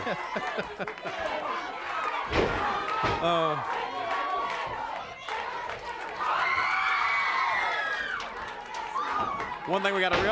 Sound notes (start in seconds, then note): 0.0 Tony chuckling; 5.8 crowd chanting and clapping